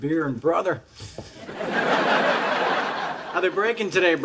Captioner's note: audience laughs